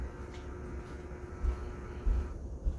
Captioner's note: doorbell buzzing